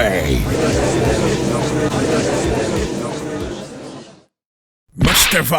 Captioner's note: gallery chattering